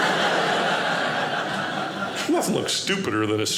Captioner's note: audience laughing